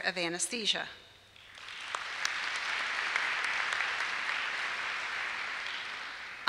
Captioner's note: applause